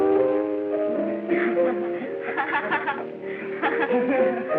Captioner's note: woman laughing